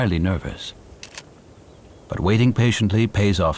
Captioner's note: camera clicks